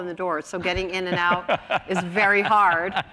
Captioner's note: laughs